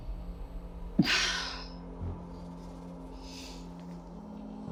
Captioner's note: sighing